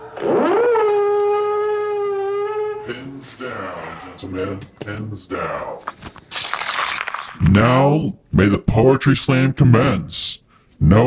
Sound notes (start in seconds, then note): 0.4 creature howling; 5.9 paper ripping; 6.4 marker lids clicking